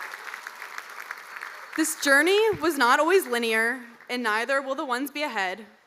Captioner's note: cheers and applause